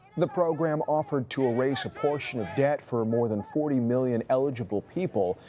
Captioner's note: chanting